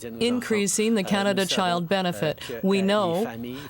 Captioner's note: speaking French